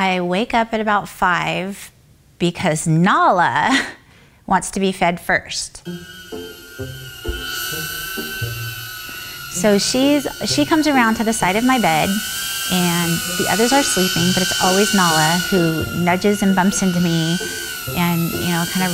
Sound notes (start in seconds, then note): 6.1 buzzing